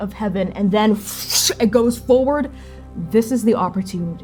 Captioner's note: whooshing